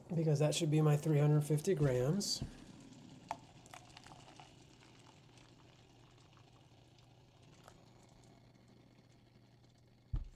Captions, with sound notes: because that should be my 350 grams. (water pouring)